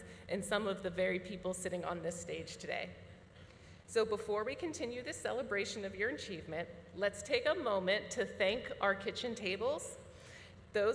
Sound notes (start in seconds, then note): none